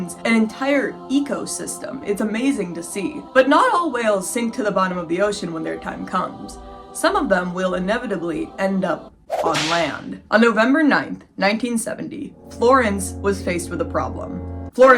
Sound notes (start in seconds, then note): 9.3 whip crack; 12.1 suspenseful music; 14.7 alarm blaring